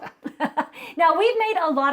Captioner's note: both chuckling